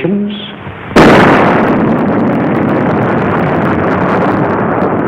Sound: explosion roaring

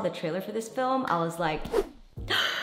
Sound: gasps

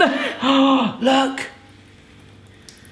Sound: gasping

